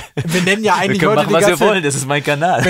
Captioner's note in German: lacht